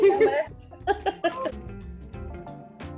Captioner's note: chuckles; soft music continues